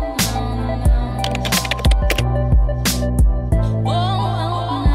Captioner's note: keyboard clacking